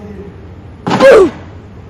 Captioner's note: roblox "oof" sound effect